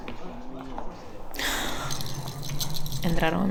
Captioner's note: steps approaching; breathing